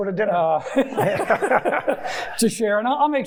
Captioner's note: chuckling